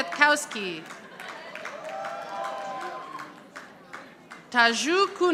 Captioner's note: audience applauding